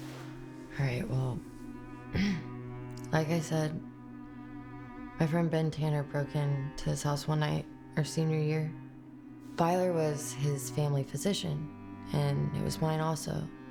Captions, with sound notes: - All right, well, (clears throat) like I said, my friend Ben Tanner broke into this house one night our senior year. Byler was his family physician, and he was mine also.